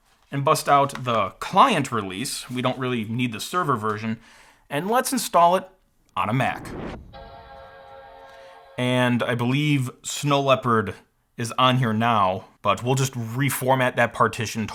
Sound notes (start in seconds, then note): 6.9 Mac Startup Chime